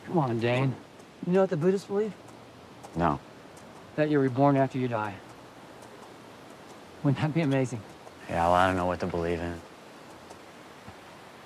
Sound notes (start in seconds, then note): none